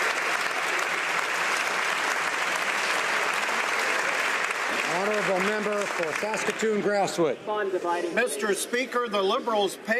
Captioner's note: some Applause